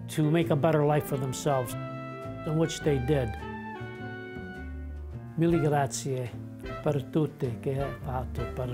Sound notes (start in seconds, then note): 4.9 speaking in Italian